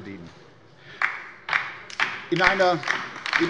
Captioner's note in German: Beifall bei der LINKEN